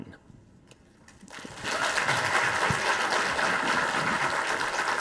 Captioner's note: audience applauding